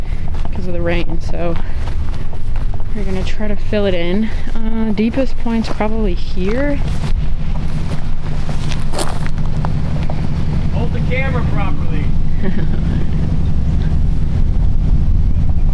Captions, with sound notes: Cause of the rain, so. We're gonna try to fill it in. Deepest point's probably here. Hold the camera properly. (Laughs)